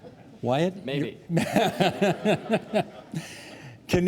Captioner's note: laughing